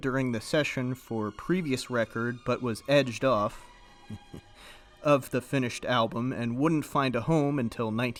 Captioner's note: heh